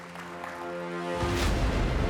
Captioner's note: applause